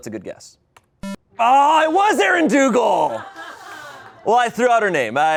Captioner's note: electronic boop